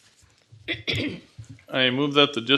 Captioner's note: clears throat